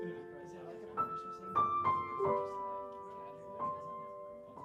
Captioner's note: murmur dissipates